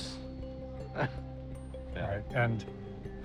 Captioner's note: chuckles